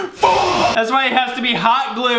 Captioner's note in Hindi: चिल्लाता है